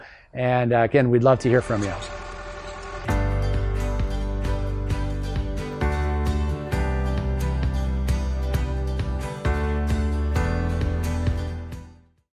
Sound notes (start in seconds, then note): 1.4 car running; 3.2 soft music